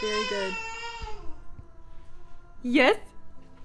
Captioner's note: baby screaming